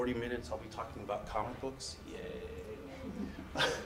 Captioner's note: laughs